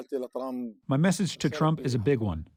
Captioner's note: through translator